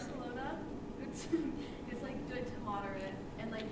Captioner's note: chuckles